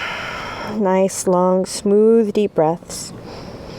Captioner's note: rhythmic breathing